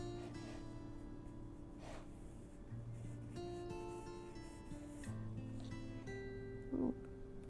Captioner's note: paper towel rustles on canvas